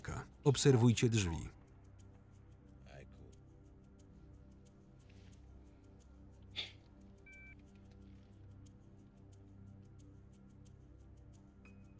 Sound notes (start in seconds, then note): 7.3 phone beeping; 7.6 dark electronic music